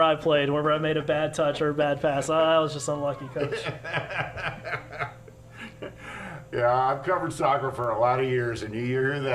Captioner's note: laughter